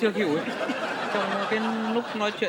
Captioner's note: laughing